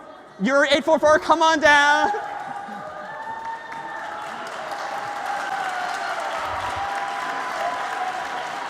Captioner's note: ปรบมือ